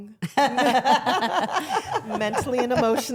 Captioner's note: all laughing